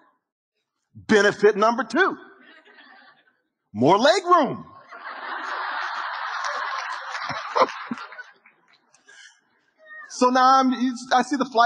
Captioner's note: audience Laughing